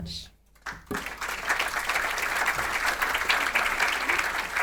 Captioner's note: audience applauding